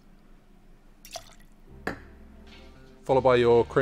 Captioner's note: liquid running